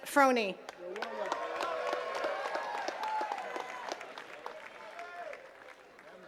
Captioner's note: attendees cheering and clapping